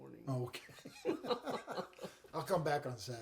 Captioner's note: chuckling